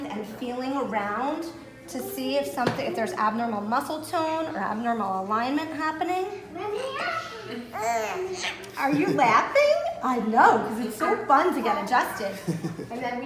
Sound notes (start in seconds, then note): 8.0 baby squeals